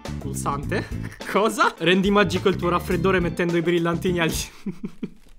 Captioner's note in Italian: risata